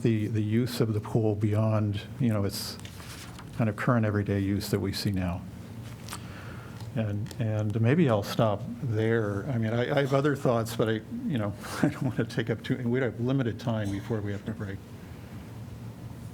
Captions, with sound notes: the use of the pool beyond, you know, its kind of current everyday use that we see now. And- and maybe I'll stop there. I mean, I- I have other thoughts, but I- you know [LAUGHTER] I want to take up two and we'd have limited time before we have to break.